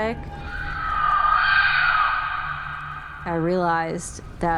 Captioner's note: birds screeching